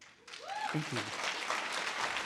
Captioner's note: audience applause